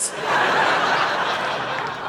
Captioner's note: audience laughing